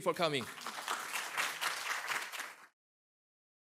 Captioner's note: applause